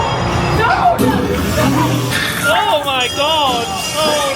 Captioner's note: spooky music; faintly speaking